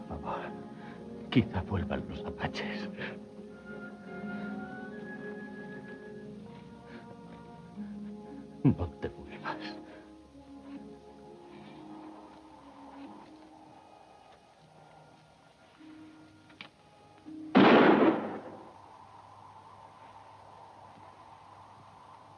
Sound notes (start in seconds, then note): 11.0 música suave; 18.0 golpes de arma; 19.7 el viento aúlla